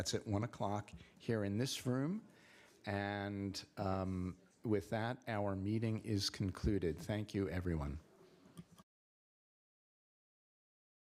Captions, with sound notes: That's at 1:00 here in this room. And with that, our meeting is concluded. Thank you, everyone. [end of audio]